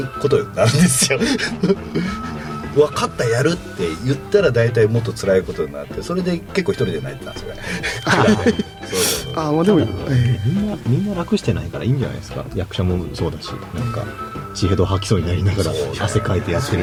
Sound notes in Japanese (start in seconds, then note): 8.2 笑い